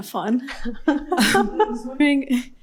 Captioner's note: laughs